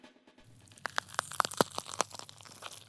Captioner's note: crunching